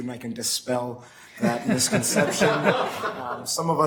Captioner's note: laughing